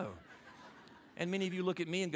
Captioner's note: audience laughing